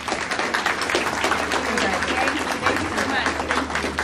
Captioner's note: audience applauding